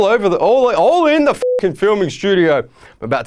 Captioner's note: beeping